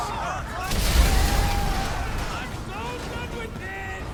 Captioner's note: explosion blasts